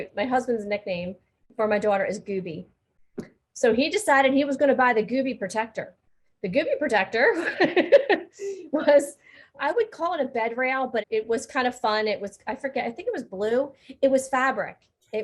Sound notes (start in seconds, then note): 7.9 laughing